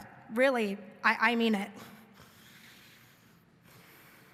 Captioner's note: inhaling